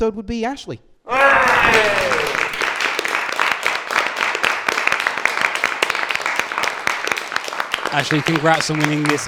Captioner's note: applause